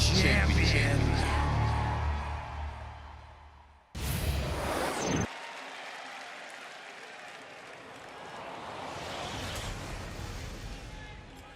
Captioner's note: cheers and applause